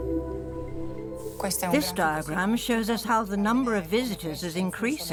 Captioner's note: in Italian